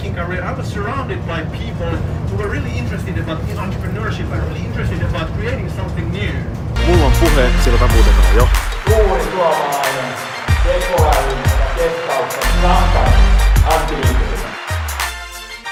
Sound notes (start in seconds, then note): 6.7 upbeat music; 6.9 speaks in foreign language